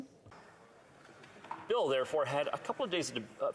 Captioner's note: speaking French